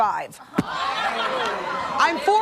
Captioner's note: audience laughing